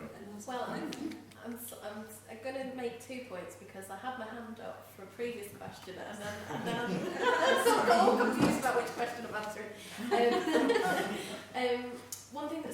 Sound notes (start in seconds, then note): 6.3 laughing